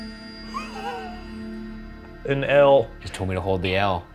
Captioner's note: laughs